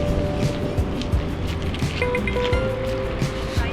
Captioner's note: beeping